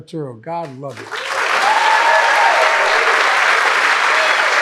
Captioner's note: audience clapping